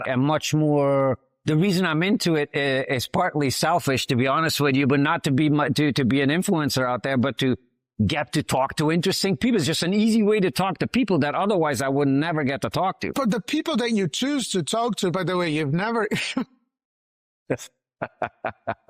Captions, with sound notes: and much more... The reason I'm into it is partly selfish, to be honest with you, but not to be an influencer out there, but to get to talk to interesting people. It's just an easy way to talk to people that otherwise I would never get to talk to. But the people that you choose to talk to, by the way, you've never— (Laughs) (Laughs)